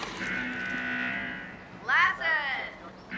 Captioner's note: alarm buzzing